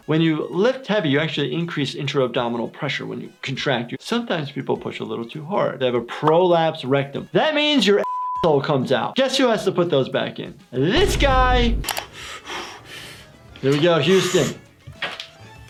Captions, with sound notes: - When you lift heavy you actually increase intro abdominal pressure when you contract. Sometimes people push a little too hard. They have a prolapsed rectum. That means your (beep) comes out. Guess who has to put those back in this guy? There we go, Houston.